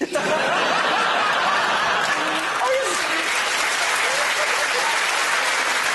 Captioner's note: laughter and Applause